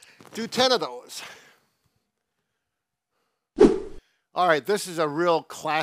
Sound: whooshing sounds

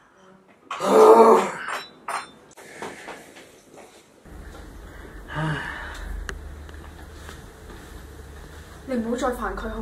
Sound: sighs

